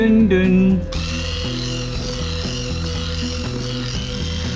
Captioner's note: whisk whirring